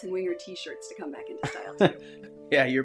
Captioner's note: chuckles